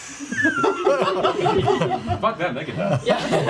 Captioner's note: laughter